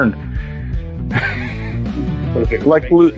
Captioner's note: laughter